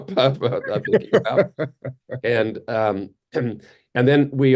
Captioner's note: laughing